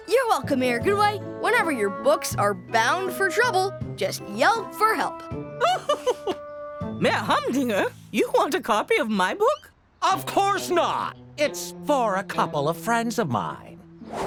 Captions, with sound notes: You're welcome, Mayor Goodway. Whenever your books are bound for trouble, just yelp for help. [laughing] Mayor Humdinger? You want a copy of my book? Of course not. It's for a couple of friends of mine.